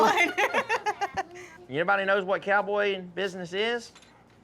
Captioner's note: laughs